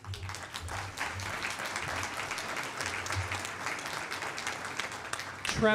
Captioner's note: applause